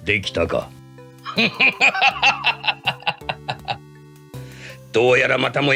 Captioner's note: laughs